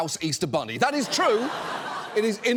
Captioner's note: audience laughs